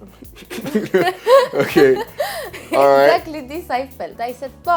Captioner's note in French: des rires